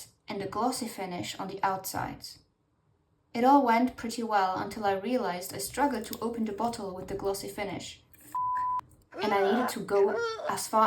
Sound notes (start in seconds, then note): 9.1 effort noises